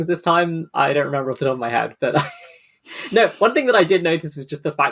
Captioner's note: laughs